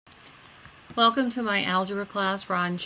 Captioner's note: voiceover